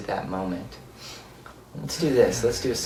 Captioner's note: exhales